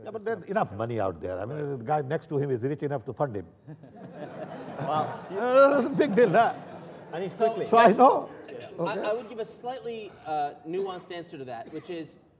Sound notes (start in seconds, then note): 3.6 laughter